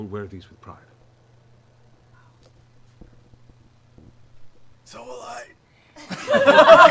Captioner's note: strained; laughter